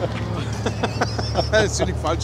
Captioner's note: laughs